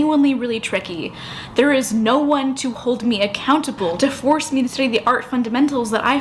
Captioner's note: inhale